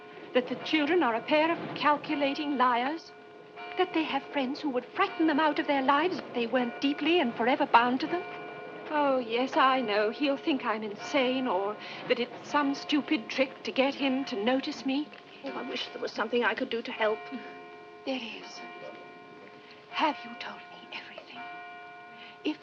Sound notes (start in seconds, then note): none